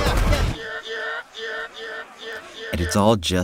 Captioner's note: Howie scream.mp3 overlapping itself